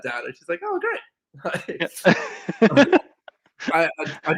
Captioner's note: everyone laughs